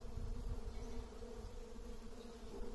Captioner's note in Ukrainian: бджолиний гул